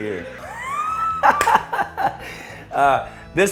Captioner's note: laughs